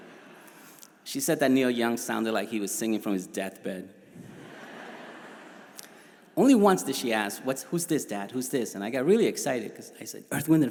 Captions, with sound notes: We knew who Michael Jackson was. It was so fricking funny. It was hilarious. (crowd laughs) My brother and I started to point on one another and the TV. "Funny! Funny!"